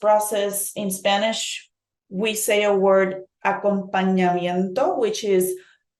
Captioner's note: speaking in Spanish